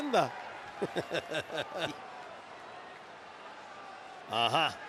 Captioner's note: applause; laugh